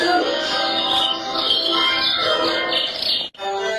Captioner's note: bird chirping